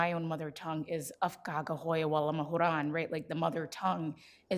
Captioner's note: speaks foreign language